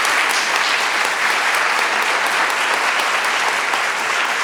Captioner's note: audience applauds